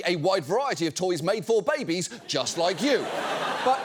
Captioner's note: audience laughs